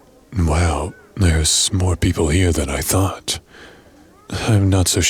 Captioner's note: party ambience